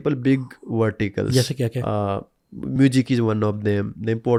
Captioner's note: speaking hindi